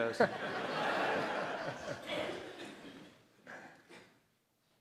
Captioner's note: audience laughs